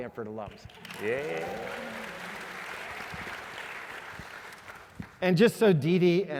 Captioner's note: applause